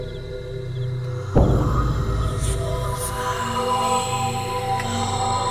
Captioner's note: ghost Voices Whispering